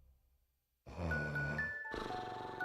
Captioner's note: snoring